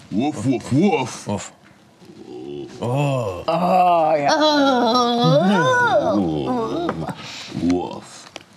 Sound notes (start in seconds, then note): 2.7 grunting in understanding